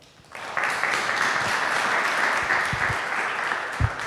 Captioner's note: audience applauding